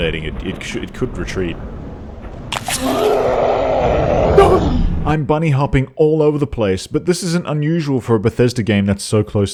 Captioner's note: panic noises